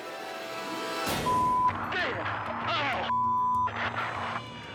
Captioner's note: dramatic music; beep